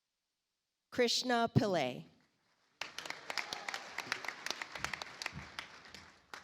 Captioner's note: audience applauds